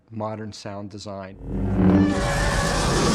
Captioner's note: whooshing; chewbacca groaning